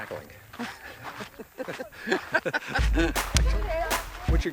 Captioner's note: Sean laughs